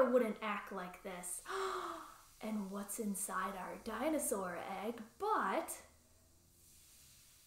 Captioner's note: gasp